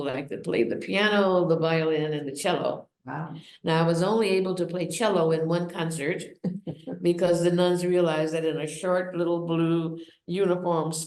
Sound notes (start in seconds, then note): 6.5 laughs